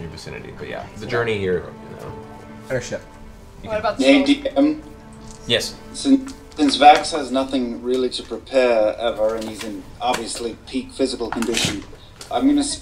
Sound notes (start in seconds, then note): none